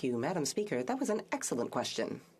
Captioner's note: speaking French